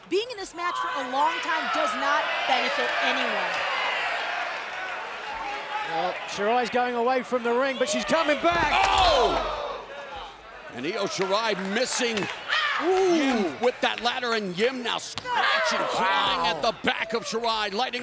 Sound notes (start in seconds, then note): 3.6 crowd cheers; 9.1 commentators exclaim